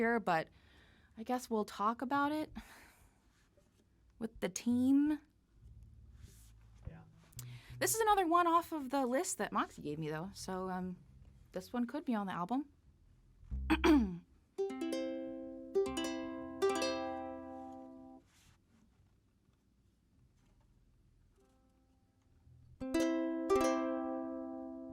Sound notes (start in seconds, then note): 13.7 clears throat; 14.6 strums ukulele; 22.9 strums again